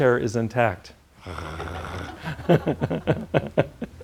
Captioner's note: growls; laughs